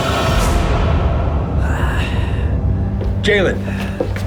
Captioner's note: heavy breathing